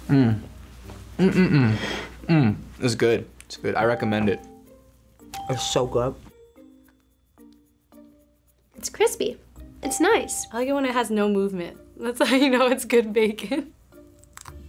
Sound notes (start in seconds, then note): 5.3 bell rings; 10.2 bell rings; 14.2 bacon crunches